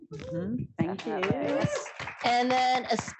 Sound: applause

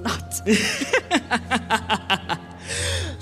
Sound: baleful laughter

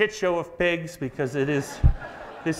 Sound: audience laughs

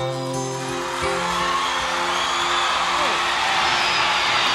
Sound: audience cheering

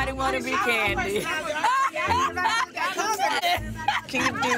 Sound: laughing

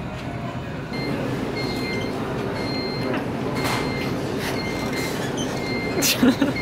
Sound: Scooter beeping; laughing

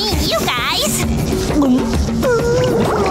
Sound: gulping

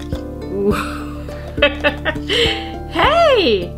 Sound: laughs

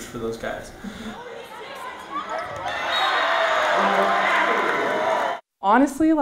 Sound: cheering

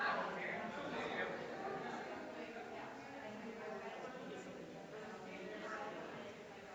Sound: people chattering distantly continues

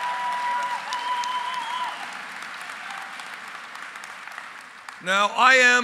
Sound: applause

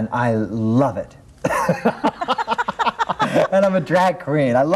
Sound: laughing

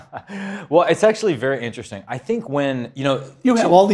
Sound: laugh

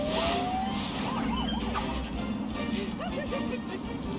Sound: police siren

